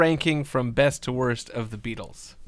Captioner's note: none